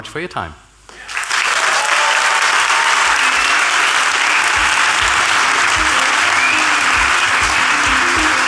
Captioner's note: applause